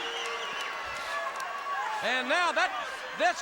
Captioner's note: crowd cheering; crowd chatter